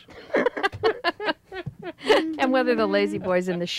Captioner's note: ladies laughing